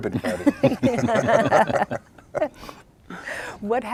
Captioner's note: laughing